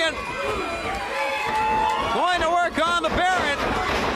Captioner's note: crowd cheering